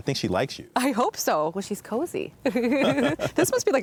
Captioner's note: both laugh